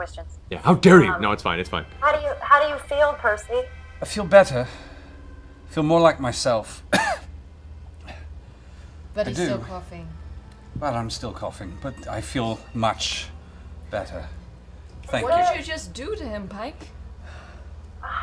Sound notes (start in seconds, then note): 6.7 coughs